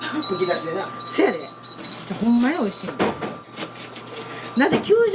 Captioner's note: laughs